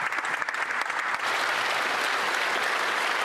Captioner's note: applause